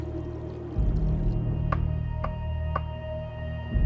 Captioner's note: ominous music; tapping